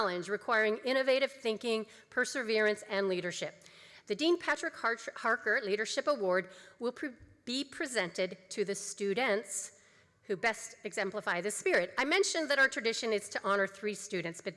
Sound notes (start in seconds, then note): none